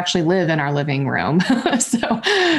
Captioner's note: chuckles